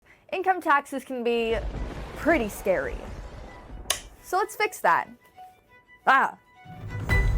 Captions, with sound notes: Income taxes can be pretty scary... (Thundering) ...so let's fix that. Aah!